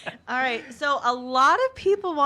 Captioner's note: laughter